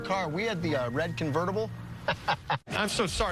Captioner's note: laughs